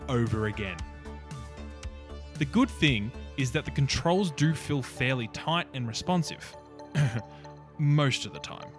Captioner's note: ahem